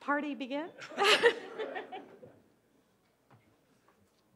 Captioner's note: laughs